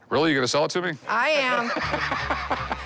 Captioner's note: laughs